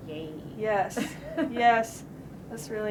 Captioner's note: laughs